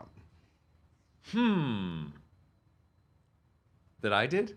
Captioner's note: hums